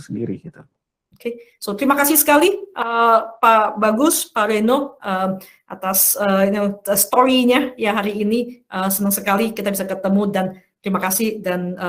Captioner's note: non-english speech